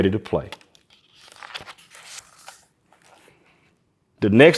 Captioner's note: pages rustling